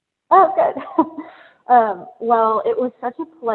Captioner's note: laughs